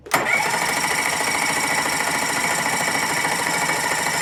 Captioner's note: engine starting noise